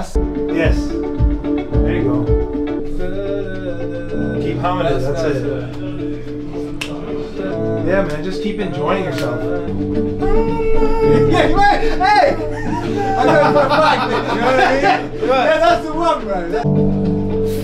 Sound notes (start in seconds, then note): 2.9 humming; 10.1 humming; 12.9 laughs